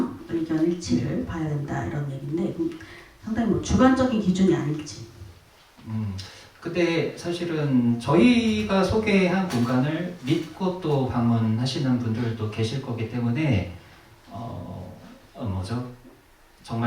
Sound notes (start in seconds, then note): none